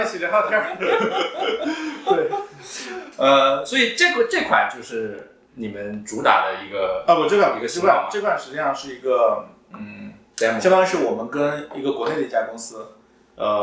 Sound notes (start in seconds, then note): 9.8 nonverbal grunt as interjection